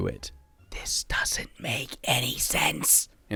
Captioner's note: whispering